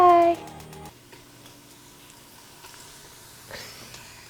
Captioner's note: oil sizzling